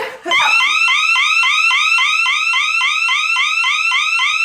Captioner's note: siren blaring